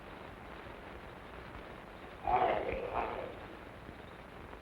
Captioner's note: wolfman growling